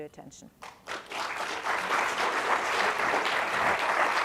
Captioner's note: crowd applause